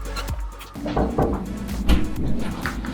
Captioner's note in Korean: 문 두드리는 소리